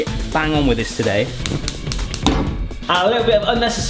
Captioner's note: ignition clicking